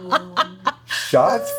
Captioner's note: laughter